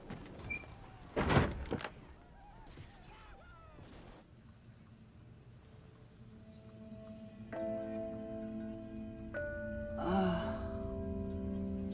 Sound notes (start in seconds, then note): 2.7 exclaiming over TV; 5.4 serene music playing; 10.0 Clive grunts